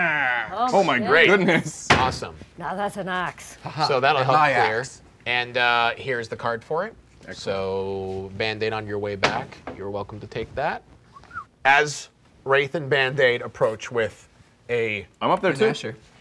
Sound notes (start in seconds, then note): 11.1 whistling